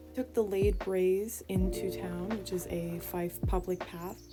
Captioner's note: none